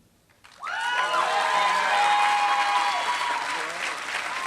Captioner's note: applause